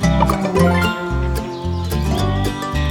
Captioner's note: notification